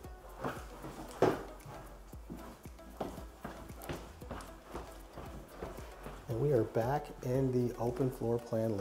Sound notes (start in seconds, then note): 0.0 footsteps thudding